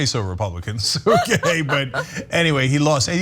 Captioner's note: laugh